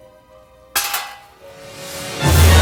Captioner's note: bullet clangs in metal tray